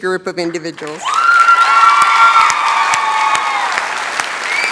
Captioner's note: cheering, applause